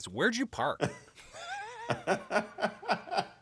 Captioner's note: laughter